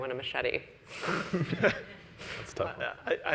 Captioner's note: laughs